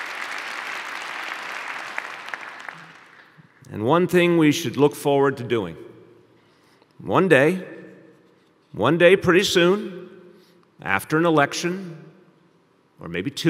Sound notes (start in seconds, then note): 4.5 applause